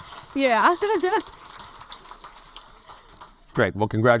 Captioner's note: laughs